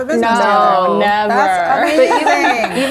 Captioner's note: laughs